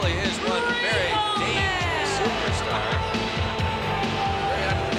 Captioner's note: laughs